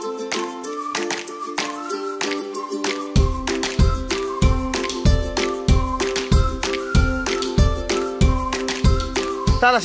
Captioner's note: clap